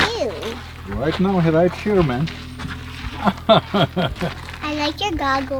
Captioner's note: laughs